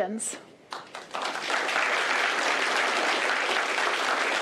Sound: applause

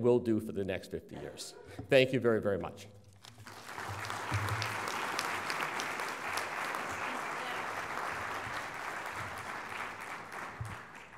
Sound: applause

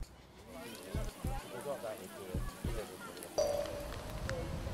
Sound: sausages sizzling

